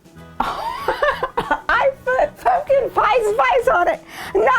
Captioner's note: laughing